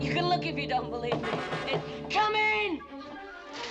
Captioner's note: knocking